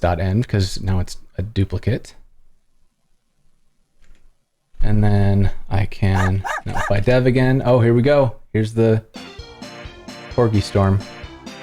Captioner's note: barking